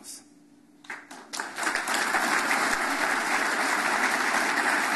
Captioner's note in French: Applaudissements